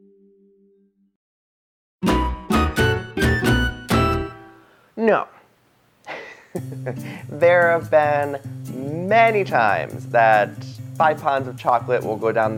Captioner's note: laughs